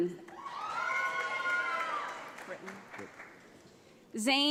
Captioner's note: audience applauds